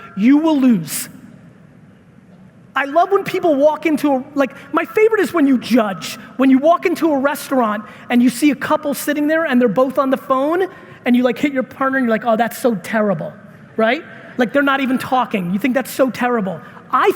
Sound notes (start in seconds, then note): none